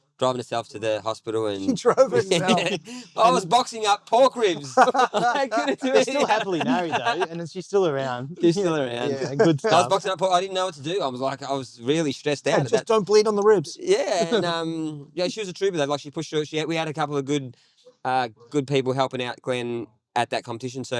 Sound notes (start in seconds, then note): 4.2 laughing